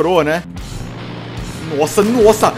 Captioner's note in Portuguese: VRUM DIUM, barulho do carro